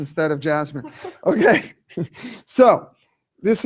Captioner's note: chuckling